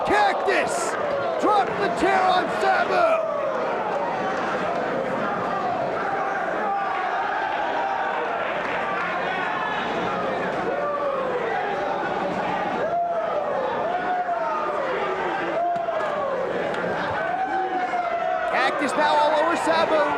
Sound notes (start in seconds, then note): 8.6 spectators cheering and applauding; 10.8 spectators cheering